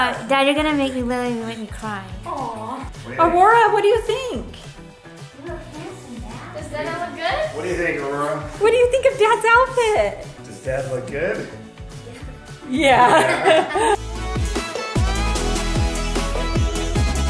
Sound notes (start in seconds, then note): 12.7 laughs; 14.2 dance music